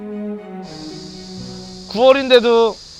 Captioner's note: buzz♬